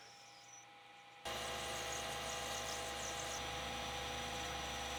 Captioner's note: machinery whirring